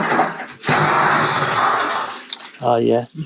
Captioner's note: barrel lid screeches